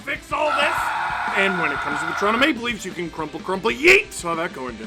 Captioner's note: screaming